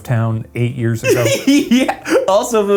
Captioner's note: laughs